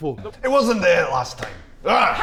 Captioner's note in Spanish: En escocés